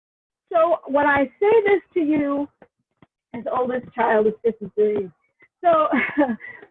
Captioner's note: audio distortion